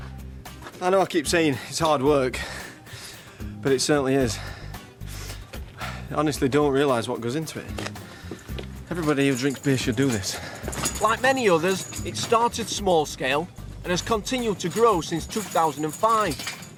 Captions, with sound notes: I know I keep saying it's hard work, but it certainly is. (breathing heavily) (sniffles) You honestly don't realise what goes into it. Everybody who drinks beer should do this. Like many others, it started small scale and has continued to grow since 2005,